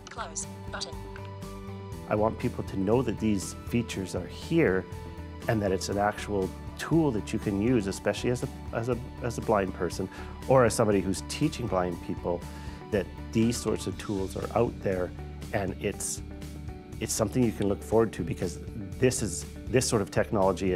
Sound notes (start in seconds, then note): none